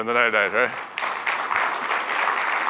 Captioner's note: applause